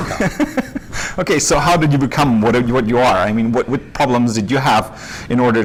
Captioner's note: laughs